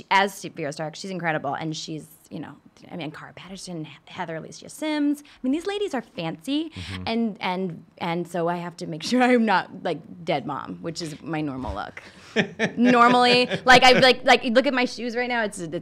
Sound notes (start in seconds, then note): 12.2 laughing